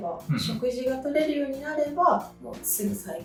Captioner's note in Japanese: 咳払い